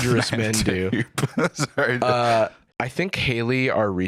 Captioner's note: laughing